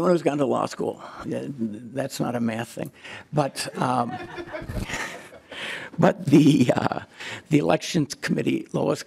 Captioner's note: laughing